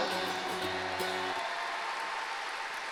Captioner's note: applause